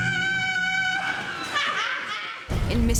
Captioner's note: cackling